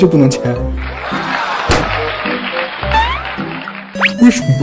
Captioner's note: applausing